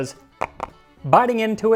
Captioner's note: chomp Chomp